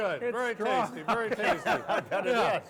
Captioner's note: laughing